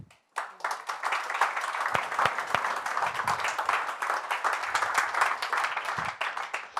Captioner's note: applause